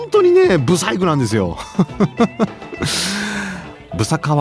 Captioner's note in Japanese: 笑い; 息をのむ音